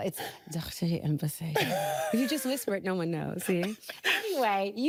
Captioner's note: laughing